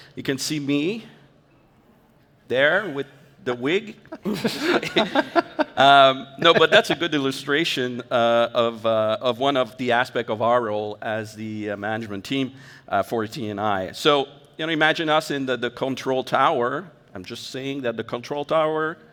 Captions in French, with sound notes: Vous pouvez me voir... Là, avec la perruque. (rires) Non, mais c'est une bonne illustration d'un des aspects de notre rôle en tant qu'équipe de gestion de T et I. Alors, imaginez-nous dans la tour de contrôle. Je veux juste dire que la tour de contrôle